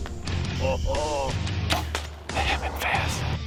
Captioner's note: arrow thuds